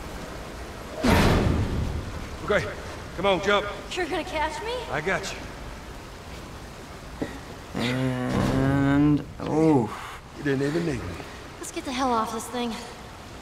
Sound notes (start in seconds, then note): 0.9 truck bed groans